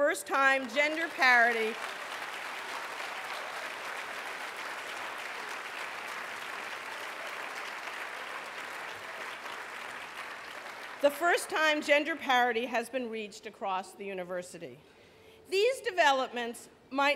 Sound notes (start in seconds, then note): 5.2 applause